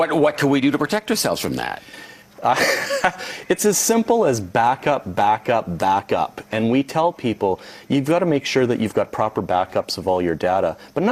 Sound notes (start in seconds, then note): 2.5 laughs